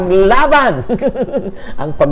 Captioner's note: laughter